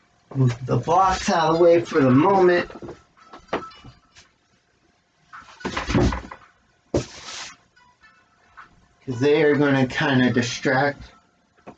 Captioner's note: rustling sounds